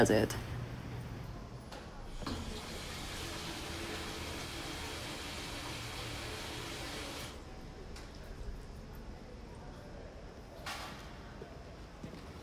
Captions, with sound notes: AND EVERYBODY DOES IT. (WATER FLOWS) (WATER STOPS)